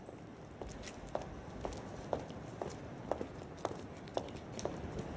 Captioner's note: footsteps patter